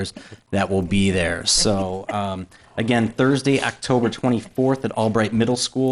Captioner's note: laughing